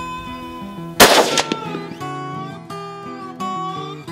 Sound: rifle firing

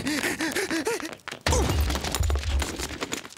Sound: cameraman panting; cameraman grunts

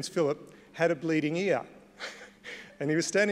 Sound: laughs

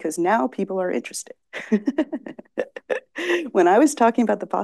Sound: laughs

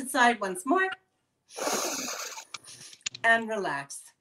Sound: sniffing sound

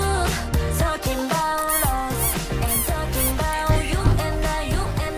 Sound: bam! bam! bam!

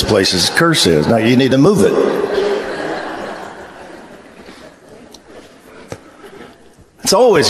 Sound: congregation laughs

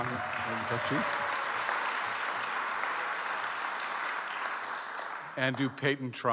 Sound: audience applauds

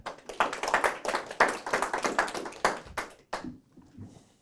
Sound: audience applauding

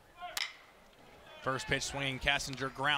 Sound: ball hitting bat

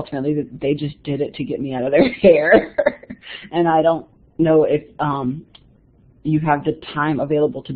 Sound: chuckles

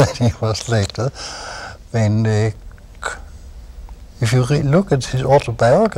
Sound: laughter

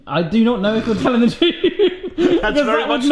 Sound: both laugh

